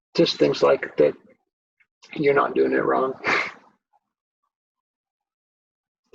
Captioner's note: chuckles